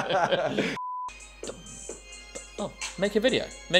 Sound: beep

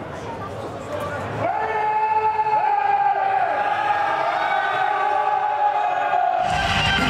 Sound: yells

